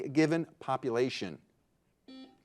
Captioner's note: buzzer buzzing